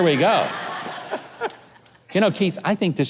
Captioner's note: audience laughing